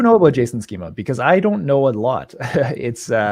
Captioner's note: laughs